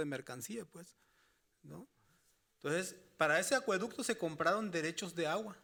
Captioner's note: speaking Spanish continues